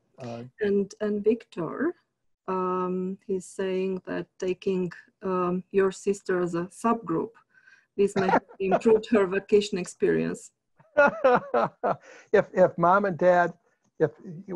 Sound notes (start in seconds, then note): 8.1 laughs; 11.0 laughs